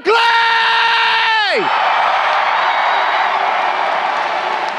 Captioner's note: crowd cheering